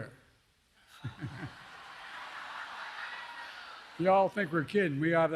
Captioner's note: laughter